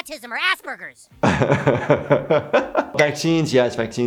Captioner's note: laughs